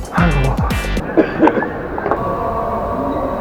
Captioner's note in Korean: 어디선가 들리는 가래 끓는 기침소리